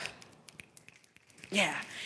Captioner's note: attendees snapping